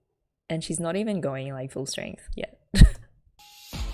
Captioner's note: laughs